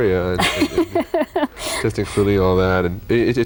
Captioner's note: laughing